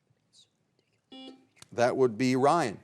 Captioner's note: buzzer beeps